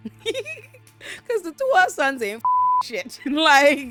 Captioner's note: laughs; beep